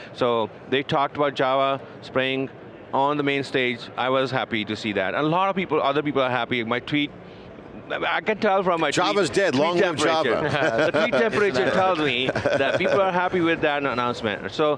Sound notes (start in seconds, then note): 10.2 everyone laughing